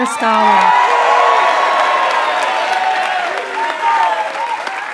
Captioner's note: applause